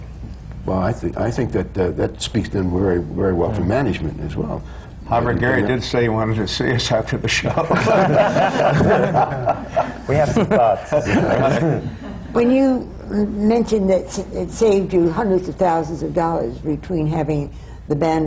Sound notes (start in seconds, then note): 4.8 laughs; 7.5 laughter